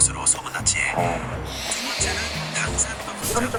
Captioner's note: murmuring